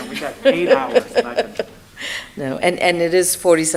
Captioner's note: laughs